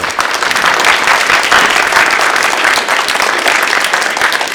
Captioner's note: audience clapping